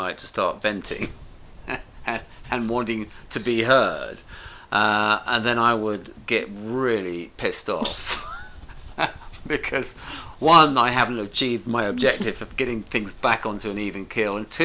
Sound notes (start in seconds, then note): 7.7 both laugh